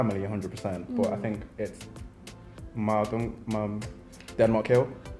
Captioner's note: murmurs